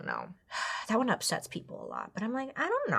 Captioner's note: sighs